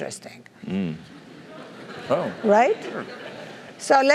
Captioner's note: laugh